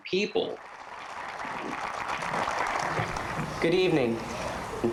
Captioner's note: applause